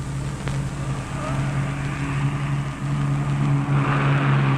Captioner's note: engine roaring